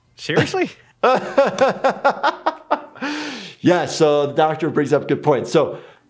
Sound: laughs

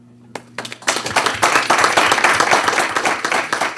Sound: applause

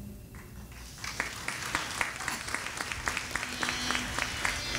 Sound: audience applauding

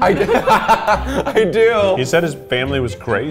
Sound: laughing

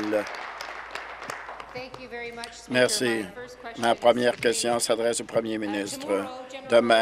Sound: applause

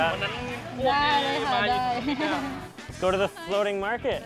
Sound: vendor speaking in foreign language

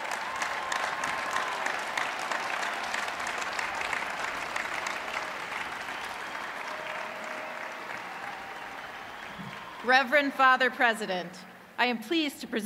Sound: cheers and applause

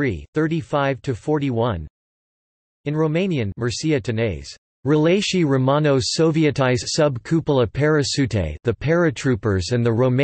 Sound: in Romanian

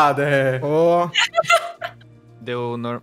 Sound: laughs

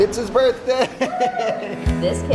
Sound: laughs; kid cheering

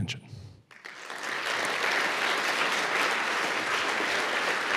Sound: audience applauds

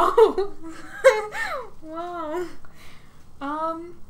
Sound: laughs

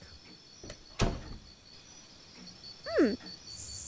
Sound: door close

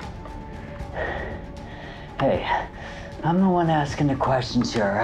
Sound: panting

